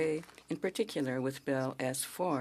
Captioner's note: speaking French